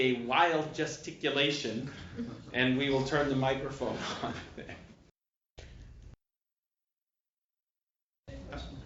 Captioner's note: laughter